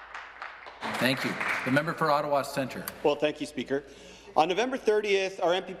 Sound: applause

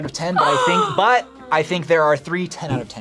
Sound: gasps dramatically

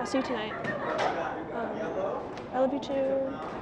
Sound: chatter

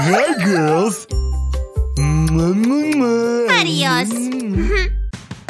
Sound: moaning

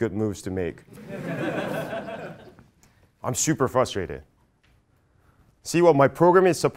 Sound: laugh

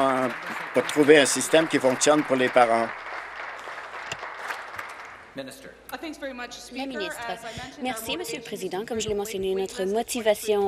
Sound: applause

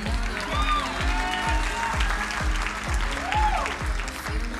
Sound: crowd cheering and applauding

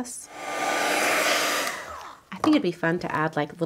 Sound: dryer whirring

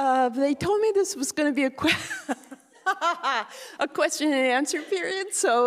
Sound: laughing

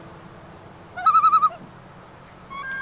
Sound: loon call

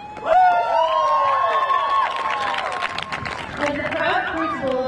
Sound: audience cheering and clapping

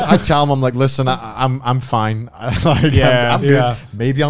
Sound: men laughing; laughs

